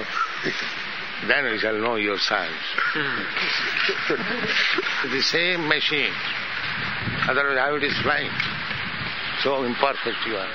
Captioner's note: laughter